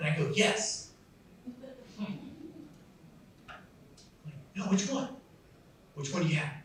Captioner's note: laughs